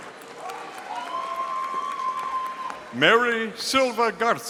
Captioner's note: audience cheering